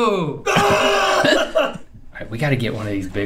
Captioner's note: Rhett screams and laughs